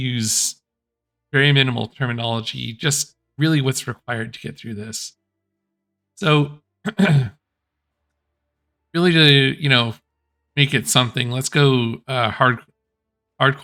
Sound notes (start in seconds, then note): 6.8 clears throat